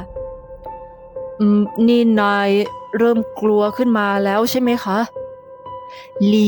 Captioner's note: Jen, softly